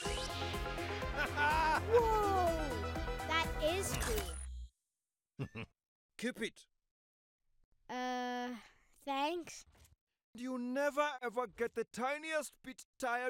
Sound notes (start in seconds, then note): 0.0 techno music; 5.4 chuckling